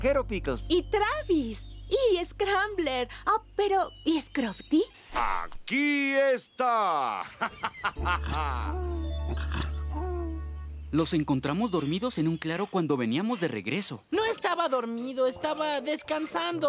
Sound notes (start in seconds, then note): 7.1 laughing; 8.0 snoring